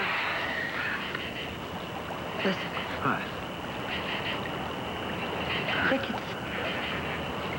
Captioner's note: crickets chirp